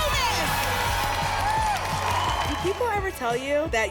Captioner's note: applause and cheering